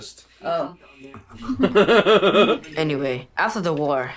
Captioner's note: laughter